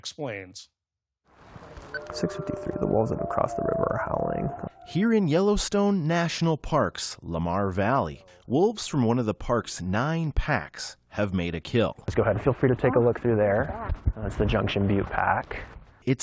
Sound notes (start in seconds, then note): 5.4 voice-over